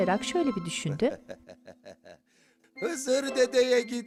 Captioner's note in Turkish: Gülme sesi